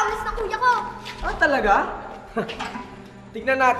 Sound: chuckles

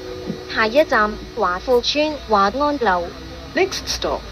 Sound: Cantonese

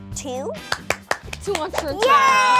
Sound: applause

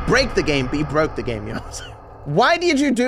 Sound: breathlessly

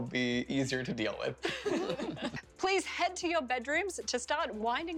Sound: laughter

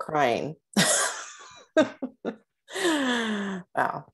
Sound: laughter

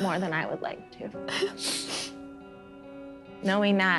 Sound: both sniffling

